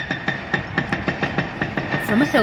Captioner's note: house being demolished